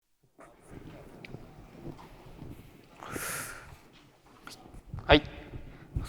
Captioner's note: silence